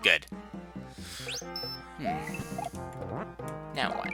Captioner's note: breathing